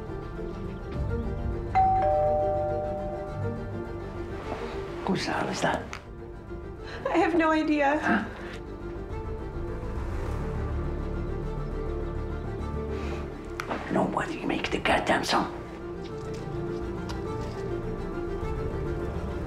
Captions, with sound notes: (doorbell rings) Who is that? - I have no idea. - Nobody makes a goddamn sound. (dramatic music)